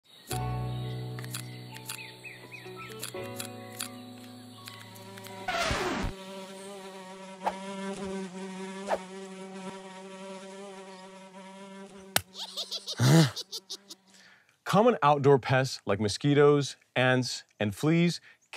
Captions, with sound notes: (scissors clipping) (bug buzzing) - Common outdoor pests like mosquitoes, ants and fleas